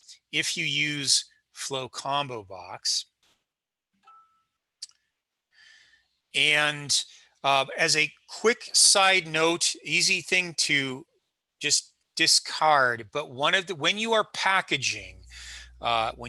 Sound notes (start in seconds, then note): 4.0 ringing